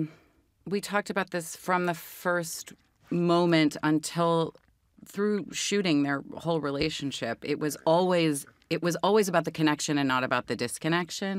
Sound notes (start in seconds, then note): none